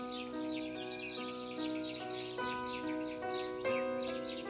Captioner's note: birds chirping